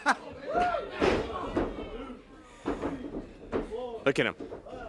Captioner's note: crowd chatter